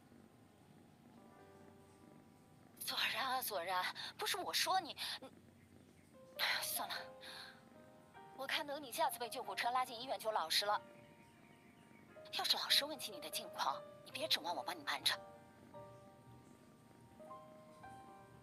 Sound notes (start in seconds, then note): 3.4 sigh